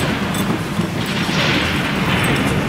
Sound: thunder

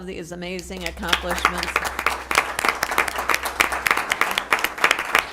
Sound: applause

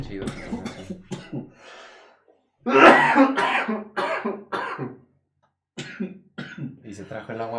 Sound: coughing

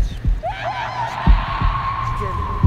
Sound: Karolina screaming in foreign language

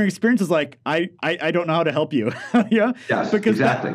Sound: laughs

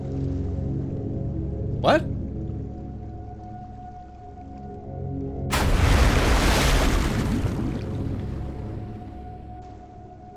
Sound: sound of submarine crashing

